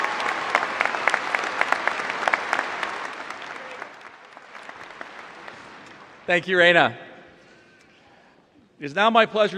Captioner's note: applause